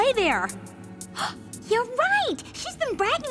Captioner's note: gasp